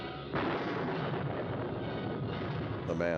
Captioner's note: thunder crashes